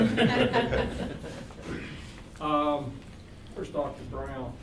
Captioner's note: all laughing